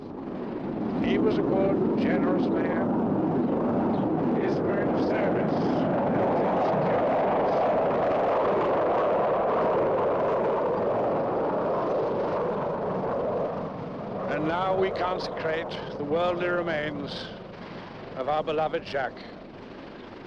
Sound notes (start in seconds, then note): 2.1 motor a jato ruge